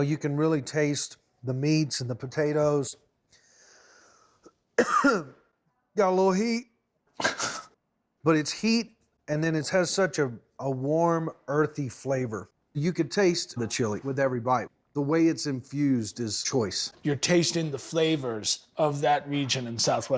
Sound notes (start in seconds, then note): 4.7 coughs; 7.1 laughs